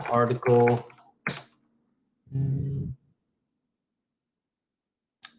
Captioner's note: keyboard clicks